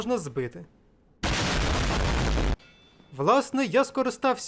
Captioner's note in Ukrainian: бам